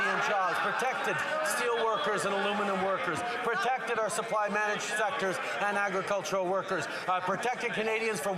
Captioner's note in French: voix de l'interprète